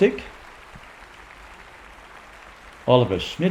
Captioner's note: applause continues